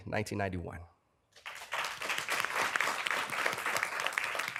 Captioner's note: applause